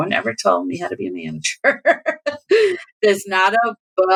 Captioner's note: laughter